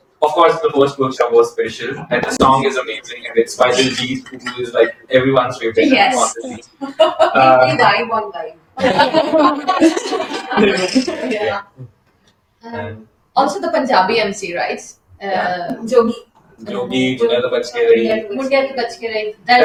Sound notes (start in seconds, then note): 12.6 laughter